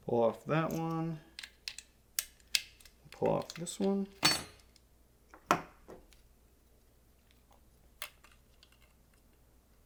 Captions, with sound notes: Pull off that one, pull off this one. (metal clinking)